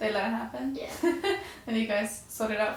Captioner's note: interviewer laughing